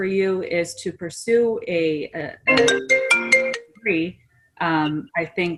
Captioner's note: phone ringing